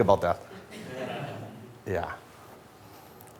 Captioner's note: light laughter